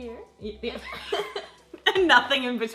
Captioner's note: laughs